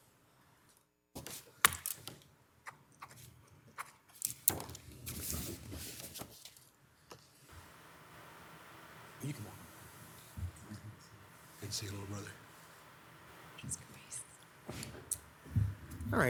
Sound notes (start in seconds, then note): 3.7 pen scratching; 9.1 faintly speaking